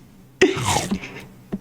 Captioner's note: laughs to myself